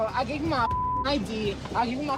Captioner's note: beep